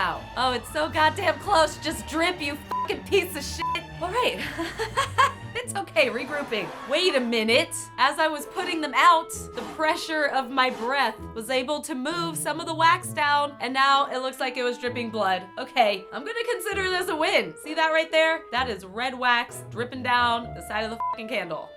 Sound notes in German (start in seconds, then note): 4.4 Frustriertes Gelächter